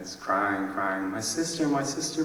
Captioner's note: none